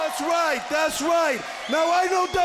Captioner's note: crowd cheering